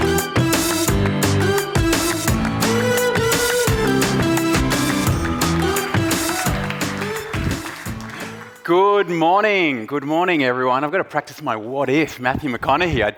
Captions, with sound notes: (upbeat music) (audience applauding) - Good morning. Good morning, everyone. I've gotta practise my "what if", Matthew McConaughey.